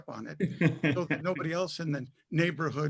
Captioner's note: laughter